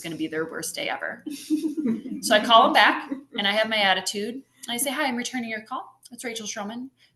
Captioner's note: laughter